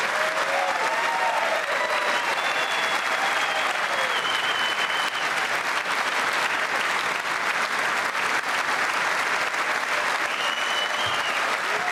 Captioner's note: cheers and applause